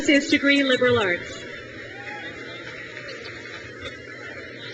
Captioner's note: crowd cheers